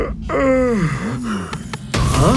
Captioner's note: yawn